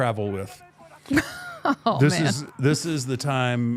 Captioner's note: laughs